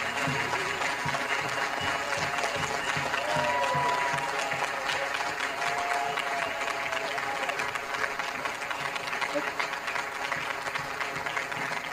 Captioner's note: applause